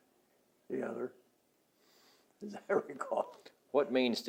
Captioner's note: laughs